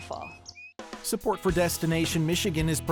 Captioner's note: bird twittering